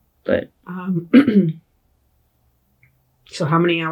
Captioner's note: clears throat